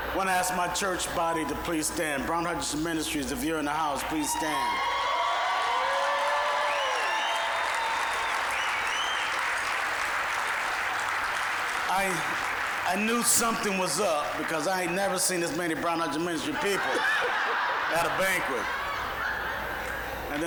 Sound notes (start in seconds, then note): 4.4 applause, cheering; 17.1 audience laughing